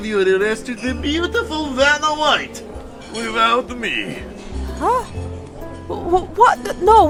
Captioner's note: stammering at first